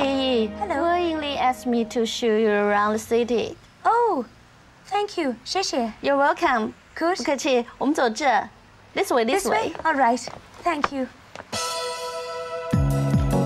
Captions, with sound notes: - I'm Chi Yu. - Hello. - Guo and Lee asked me to show you around the city. - Oh, thank you, xiexie. - You're welcome, course. - (speaking foreign language) This way. This way. - This way? All right, thank you.